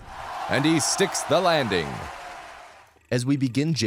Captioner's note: crowd cheering